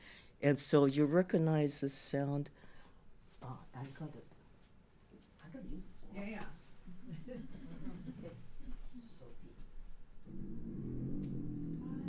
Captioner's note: low, groaning sound